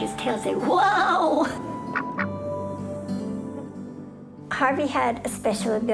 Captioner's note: duck quacking